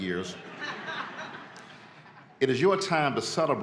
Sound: audience laughs

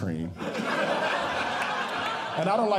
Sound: audience Laughing

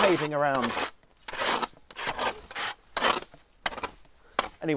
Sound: hoe scrapes

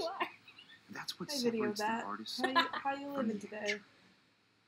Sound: laughter

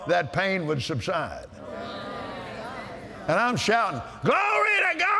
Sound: audience Agrees

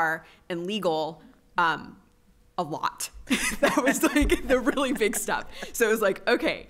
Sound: laughter

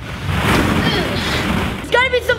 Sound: groaning

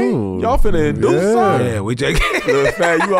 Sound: laughs

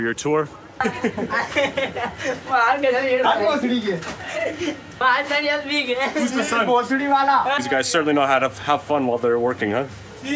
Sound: laughing; speaking in foreign language

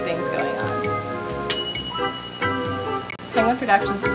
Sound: bell dings

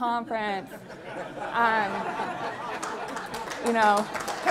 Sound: laughter and applause

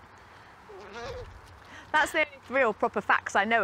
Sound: owl calls

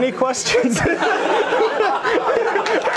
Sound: audience laughter; applause

